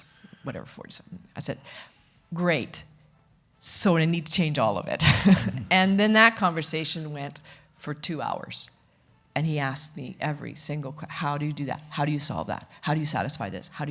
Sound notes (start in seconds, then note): 5.1 chuckles